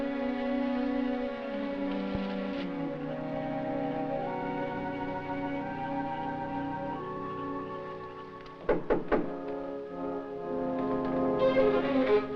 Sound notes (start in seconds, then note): 1.3 leaves rustling; 8.6 knocking on door